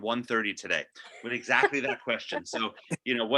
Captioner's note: laughing